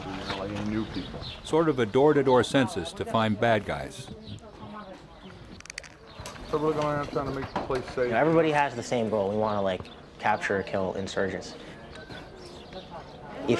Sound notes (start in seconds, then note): 1.7 voiceover